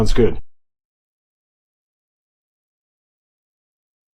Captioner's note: long intentional silence